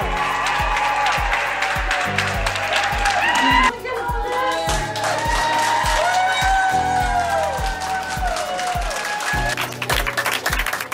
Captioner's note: applause